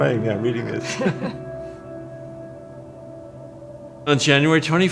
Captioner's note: laughs